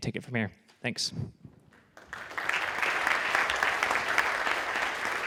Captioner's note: audience applauding